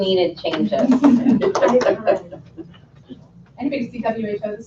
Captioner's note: laughing